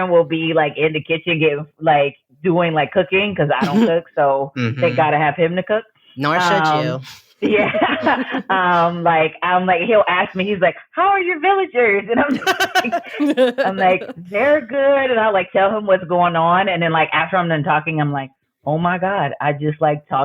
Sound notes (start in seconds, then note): 6.3 laughs